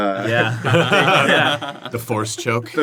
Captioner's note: laughter